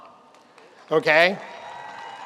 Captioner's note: audience applauds